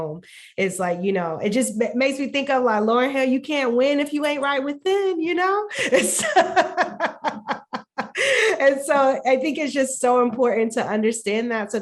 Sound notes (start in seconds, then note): 6.1 laughing